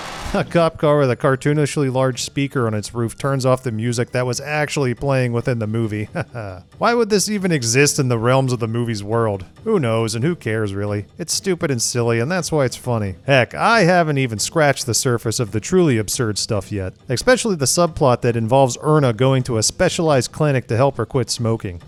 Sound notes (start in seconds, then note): 6.1 laughs